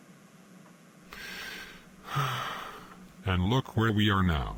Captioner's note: sighing